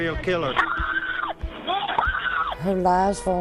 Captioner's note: woman screaming